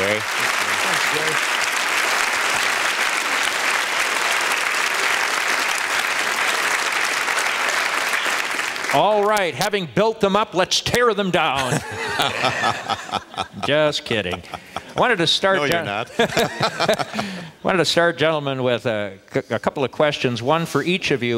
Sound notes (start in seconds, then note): 0.0 applause; 11.5 candidates laugh; 15.9 laughs